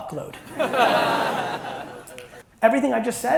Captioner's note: audience laughs